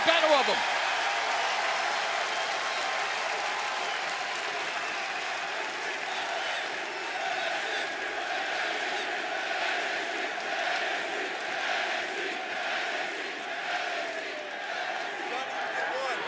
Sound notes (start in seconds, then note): 0.3 cheers and applause; 4.4 fans chanting